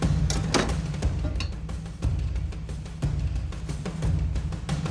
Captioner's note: lock pops open; tense music